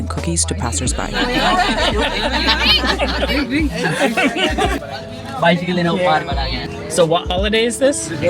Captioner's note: laughing, indistinct conversation